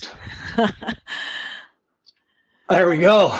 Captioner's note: chuckles